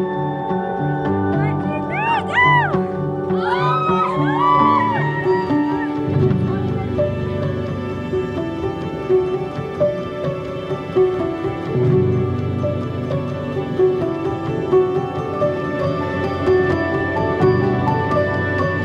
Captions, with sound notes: - One, two, three go. (bridesmaids cheers) (slow upbeat music continues)